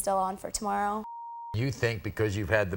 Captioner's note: beep